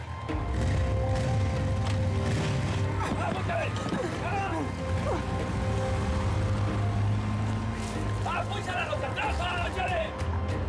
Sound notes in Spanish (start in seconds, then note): 0.3 sonido de motores; 2.8 habla entre dientes; 5.9 sonido de motores